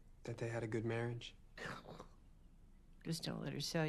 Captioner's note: scoffs